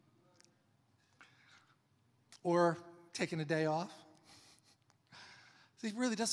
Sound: laughs

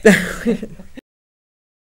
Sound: laughs

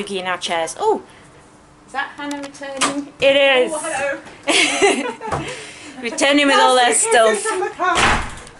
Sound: giggles

